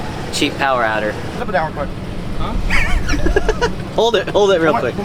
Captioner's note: chuckles